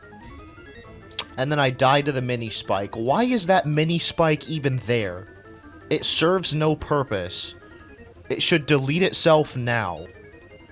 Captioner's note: tch